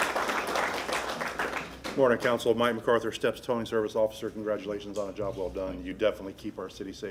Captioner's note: applause